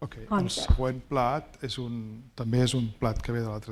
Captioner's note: speaking spanish